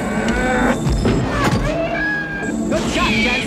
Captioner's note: bull grunt; camel whine